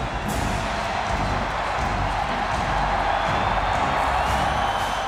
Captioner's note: crowd cheering continues